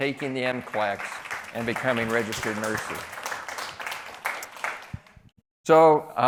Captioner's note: applause